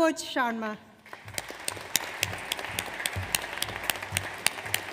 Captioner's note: audience applauds